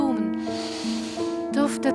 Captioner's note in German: Einatmen